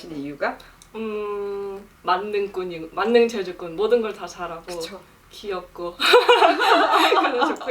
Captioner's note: laugh